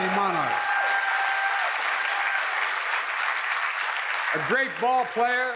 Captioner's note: applause